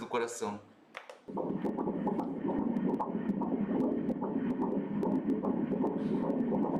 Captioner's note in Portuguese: batimentos cardíacos